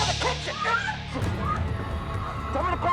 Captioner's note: scream